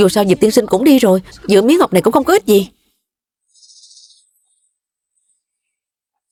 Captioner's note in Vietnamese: khịt mũi